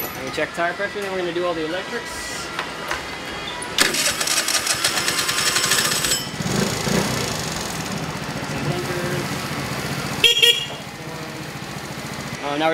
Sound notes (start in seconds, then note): 3.7 engine starts and revs; 10.1 horn toots